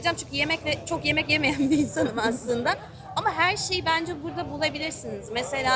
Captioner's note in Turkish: kahkaha